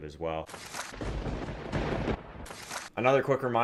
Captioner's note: lightening; thunder